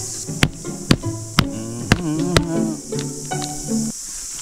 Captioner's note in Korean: 콧노래